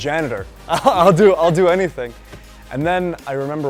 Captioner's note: laugh